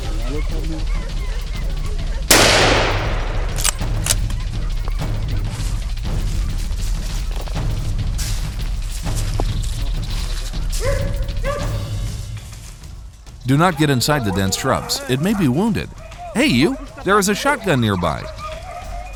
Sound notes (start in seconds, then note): 2.3 gunshot